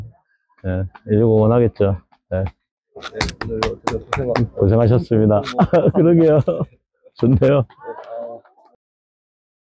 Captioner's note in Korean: 짝짝짝